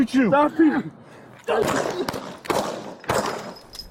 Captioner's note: shots fired